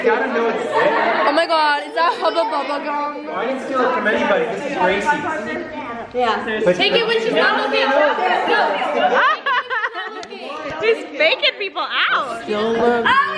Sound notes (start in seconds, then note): 7.4 chattering